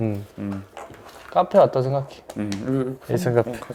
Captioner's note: rustle